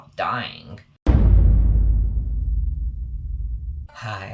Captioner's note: dramatic boom